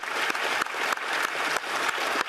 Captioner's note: applause